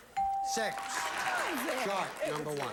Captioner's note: audience applauding